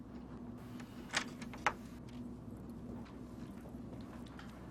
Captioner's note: door opening